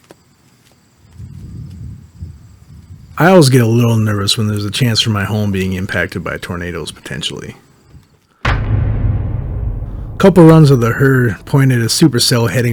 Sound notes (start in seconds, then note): 3.3 voiceover